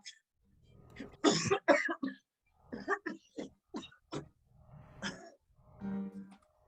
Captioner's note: coughs